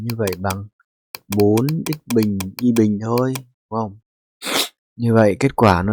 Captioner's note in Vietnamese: khịt mũi